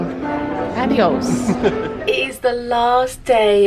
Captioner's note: chuckles